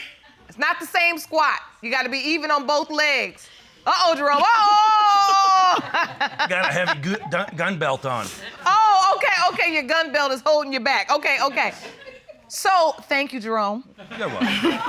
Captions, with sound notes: It's not the same squat. You got to be even on both legs. Uh-oh, Jerome. Oh! [laughs] Gotta have a gu-- gun belt on. Oh, okay. Okay. Your gun belt is holding you back. Okay. Okay. -So, thank you, Jerome... -You're welcome.